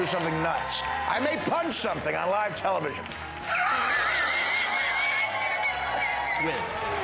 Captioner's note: laughter